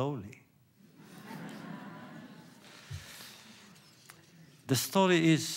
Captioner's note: laughter